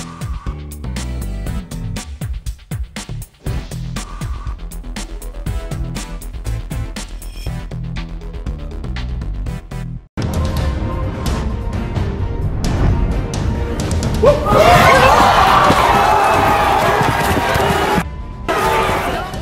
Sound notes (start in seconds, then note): 10.4 dramatic music; 14.2 audience shouts